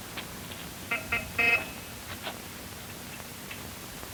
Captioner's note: car horn honks